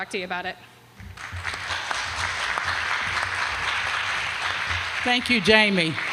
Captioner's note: applause